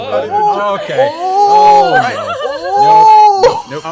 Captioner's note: laughter